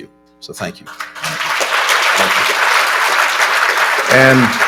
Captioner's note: applause